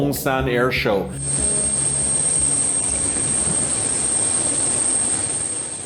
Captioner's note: plane engine roaring